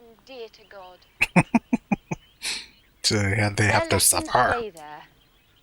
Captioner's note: chuckling